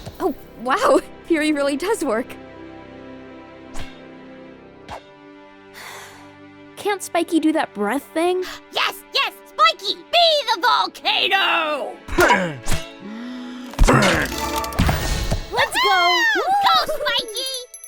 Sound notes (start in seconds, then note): 5.7 tapey sighs; 13.0 spikey inhales